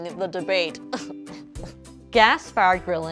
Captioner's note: fake laughs